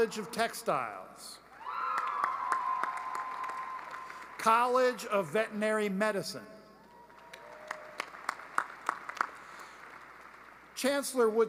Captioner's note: applause